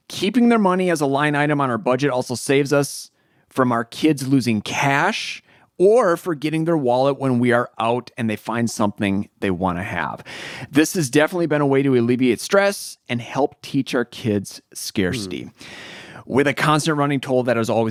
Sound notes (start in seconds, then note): none